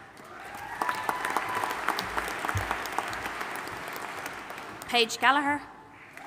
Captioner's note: audience applauding and cheering